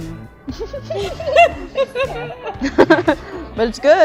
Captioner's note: laughing